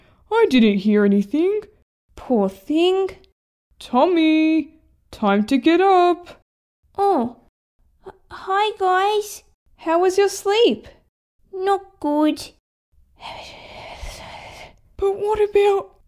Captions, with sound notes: I didn’t hear anything Poor thing... Tommy! Time to get up! Oh... Hi guys... How was your sleep? Not good (Whispering) But what about...!